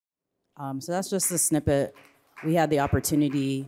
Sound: audience applauds

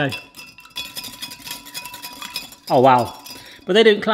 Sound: glass tinkling

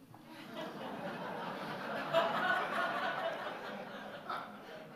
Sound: audience laughing

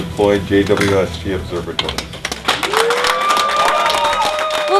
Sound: applause

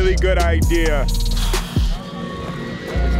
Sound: exhales

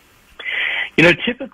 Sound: sighs

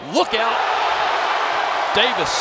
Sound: crowd cheering

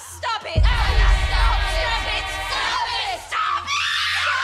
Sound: screaming

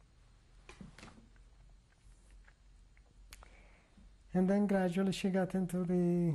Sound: pauses for 3 seconds

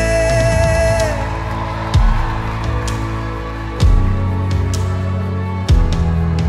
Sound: cheering

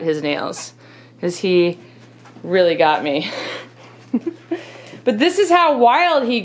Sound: laughing

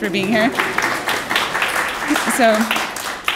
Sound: applause

